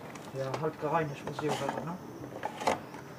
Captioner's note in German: Leise Gesprächsfetzen